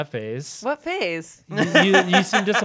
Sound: laughing

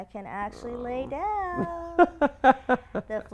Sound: laugh

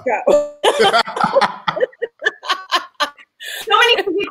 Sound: all laughing

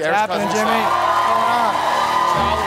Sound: applause and cheering

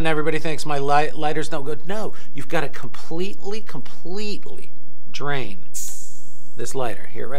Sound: hissing sound

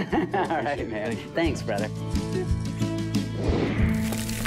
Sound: chuckles

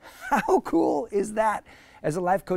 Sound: chuckling

